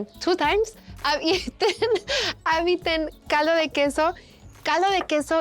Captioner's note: laughs